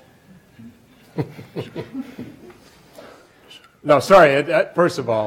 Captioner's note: laughs